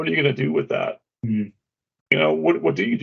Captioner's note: humming